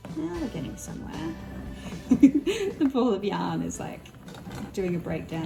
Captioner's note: laughs